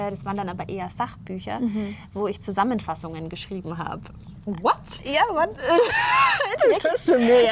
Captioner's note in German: gelächter